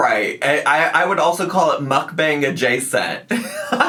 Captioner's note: laughs